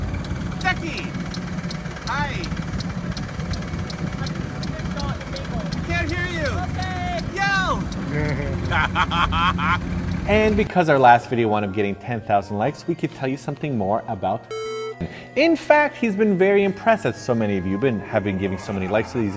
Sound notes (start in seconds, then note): 8.0 evil laugh